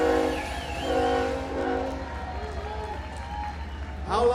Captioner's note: train Whistle